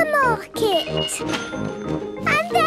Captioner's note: cash register dinging